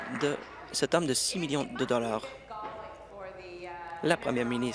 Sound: applause

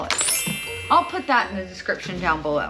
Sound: bell

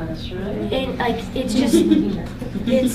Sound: people laughing

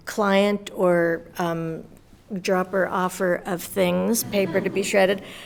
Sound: audience laughs

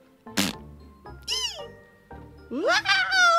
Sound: yells

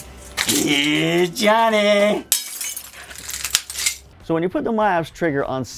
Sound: glass breaking

